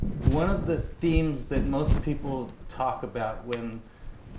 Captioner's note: none